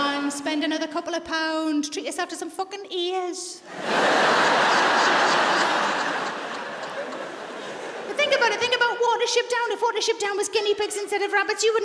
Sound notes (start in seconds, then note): 3.7 audience laughs